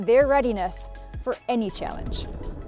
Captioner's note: transition whooshes